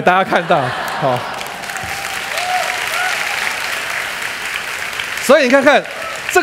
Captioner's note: laughter; applause